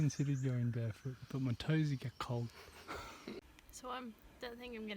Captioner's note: laughter